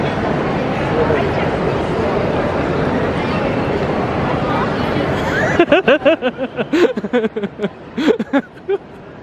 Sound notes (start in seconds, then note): 3.1 commuters chatting indistinctly continues; 5.3 laughing